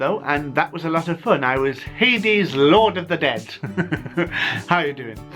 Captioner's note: evil chuckle